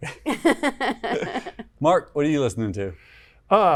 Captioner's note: laughs